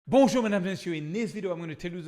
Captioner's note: speaking in French